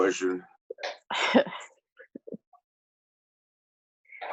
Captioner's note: chuckles